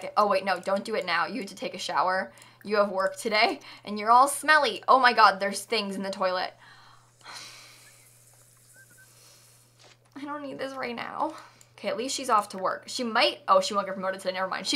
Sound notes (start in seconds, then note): 7.2 deep sigh